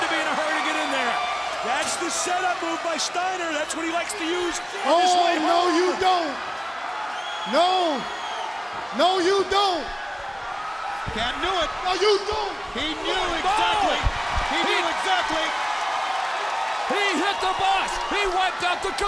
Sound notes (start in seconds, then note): 15.6 crowd cheering